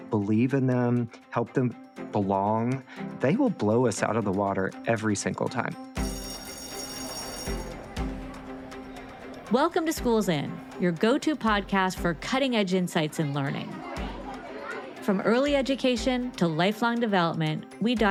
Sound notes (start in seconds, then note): 5.9 bell ringing; 6.3 bright music; 6.3 student speaking faintly